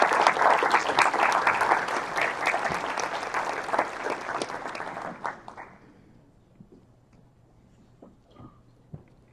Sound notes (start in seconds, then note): 4.2 applause